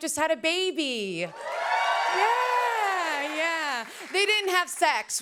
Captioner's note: cheers and applause